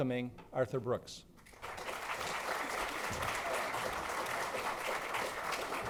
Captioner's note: audience clapping